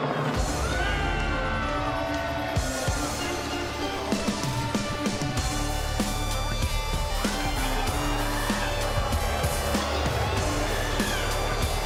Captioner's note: audience jeers